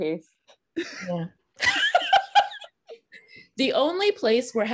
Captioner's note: laughing